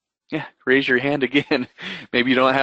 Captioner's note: laughs